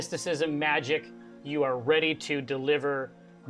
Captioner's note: none